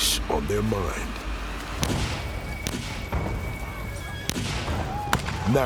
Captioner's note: gunshots